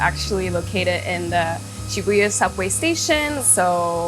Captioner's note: speaking foreign language